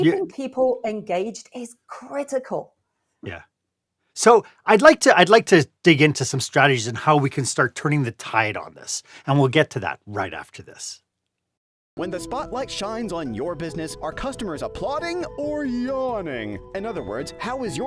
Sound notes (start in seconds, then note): 11.7 voiceover